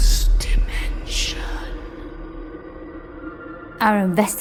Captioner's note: ominous music; ghostly Voice